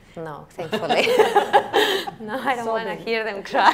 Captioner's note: laughing